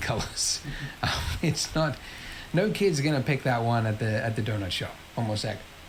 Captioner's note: laughs